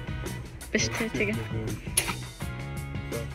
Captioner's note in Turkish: almanca